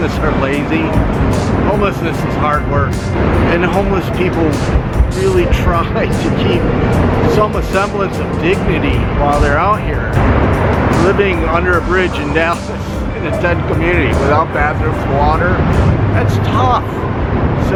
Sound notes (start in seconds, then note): 5.6 chuckles